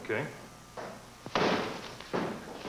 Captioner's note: loud thump